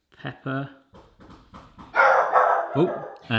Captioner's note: knocking; dog barking